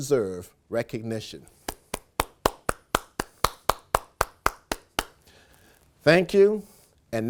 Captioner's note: applause